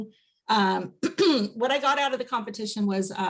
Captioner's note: clears throat